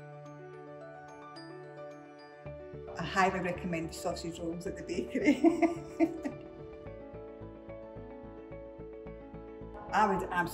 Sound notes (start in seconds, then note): 5.3 laughs